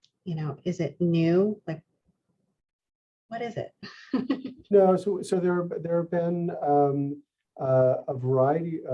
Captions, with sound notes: You know, is it new? Like, what is it? (laughs) - No, so there have been a variety